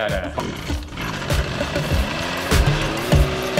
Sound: generator cranking

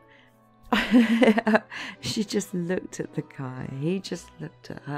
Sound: laughing

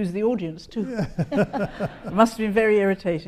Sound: laughs

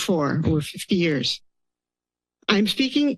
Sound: pause

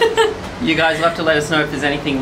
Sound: giggles

